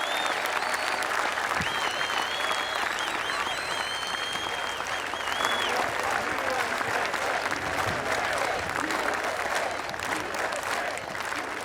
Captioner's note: applause